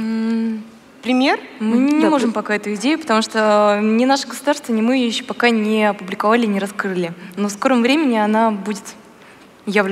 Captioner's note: foreign Language